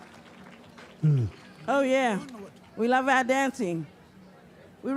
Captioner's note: cheering and applause